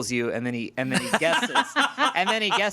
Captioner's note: everyone laughs